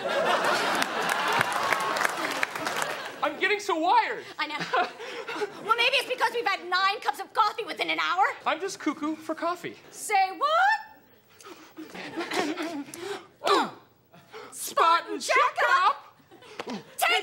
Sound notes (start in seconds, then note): 0.0 audience laughs and claps; 4.8 Craig laughs nervously; 11.4 coughs softly